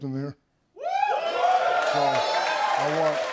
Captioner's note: cheers and applause; scattered cheers